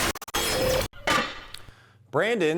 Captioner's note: static electronic sounds; metal clanking